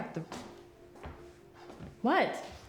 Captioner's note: footsteps tapping